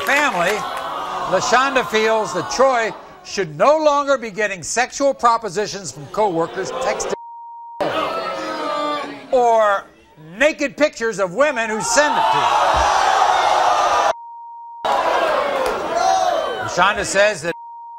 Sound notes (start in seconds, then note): 12.8 audience groaning